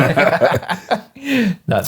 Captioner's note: laughing